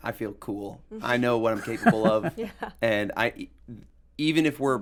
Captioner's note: guests laugh